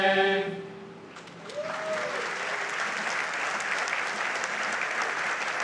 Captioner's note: audience applauds